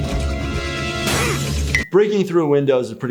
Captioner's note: suspenseful music; glass shattering